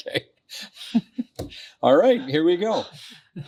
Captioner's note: laughing